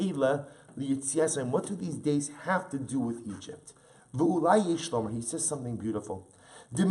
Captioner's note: Hebrew; Hebrew